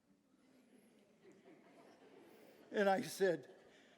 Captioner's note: audience laughing